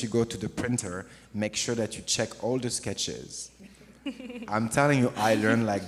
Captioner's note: questioner chuckles